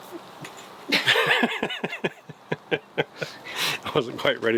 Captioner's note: laughing